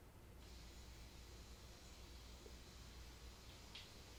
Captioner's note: water running